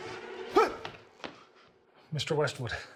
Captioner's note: Samuel gasps